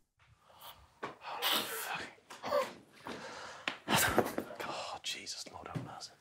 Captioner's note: group quietly laughing